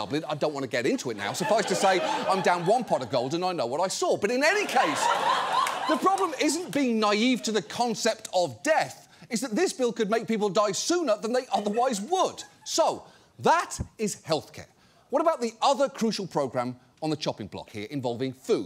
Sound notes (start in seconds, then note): 4.5 studio audience laughs